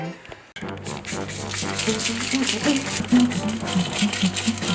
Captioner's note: pepper grinder grinding